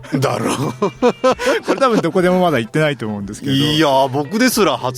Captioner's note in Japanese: 笑い